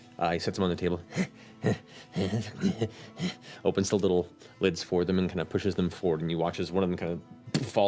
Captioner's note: chuckling